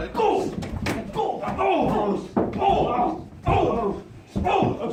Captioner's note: thudding and grunting